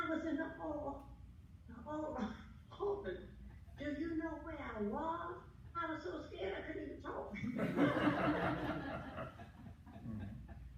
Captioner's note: laughter